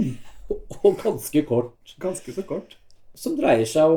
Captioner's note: laughs